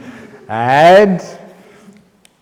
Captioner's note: laughter